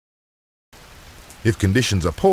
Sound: rain

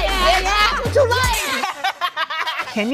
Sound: laughing

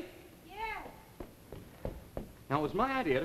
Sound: footsteps

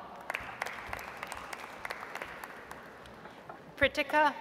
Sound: audience applauds

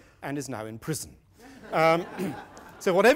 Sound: laughter

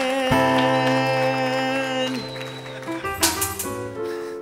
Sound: audience laughing and applauding

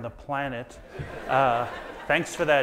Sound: audience laughs

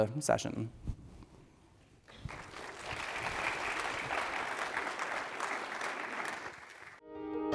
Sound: applause

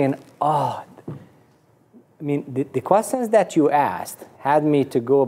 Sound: sighs

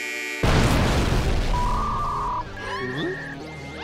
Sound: buzzing; electronic trilling; screams

